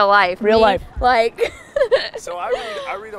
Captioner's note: laughs